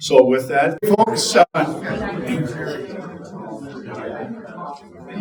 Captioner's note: crowd chattering